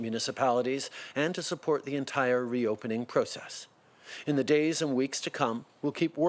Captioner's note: speaking French